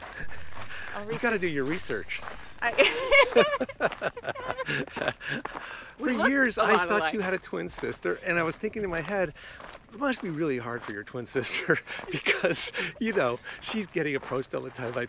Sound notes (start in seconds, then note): 0.0 laughs